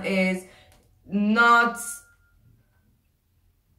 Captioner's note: pause